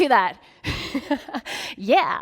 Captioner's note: laughing